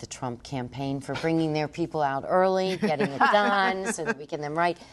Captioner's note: laughter